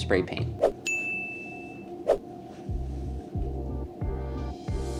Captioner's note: air whooshing; bell dinging; upbeat music